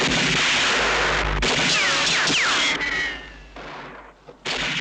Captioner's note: bullets ricocheting